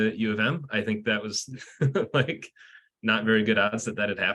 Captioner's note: laughs